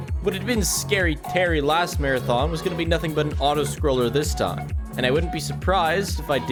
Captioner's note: none